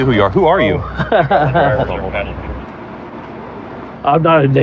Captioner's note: laugh